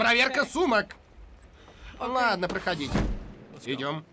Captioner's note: sighs